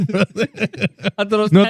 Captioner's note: laughing